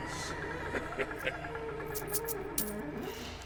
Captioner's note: leprechaun chuckling; eerie music